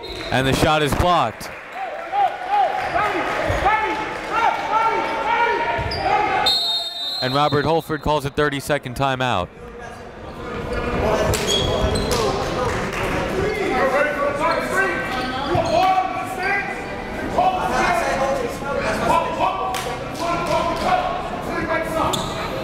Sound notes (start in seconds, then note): 6.4 whistle blows; 14.9 gymnasium bustles loudly; 19.5 coaches yelling